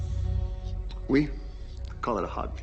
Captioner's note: LaFleur speaking in French